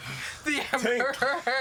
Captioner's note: laughing